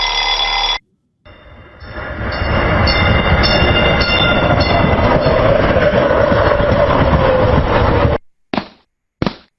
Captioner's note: alarm ringing; train approaching; footsteps